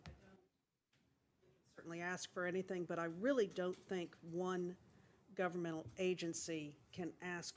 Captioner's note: off microphone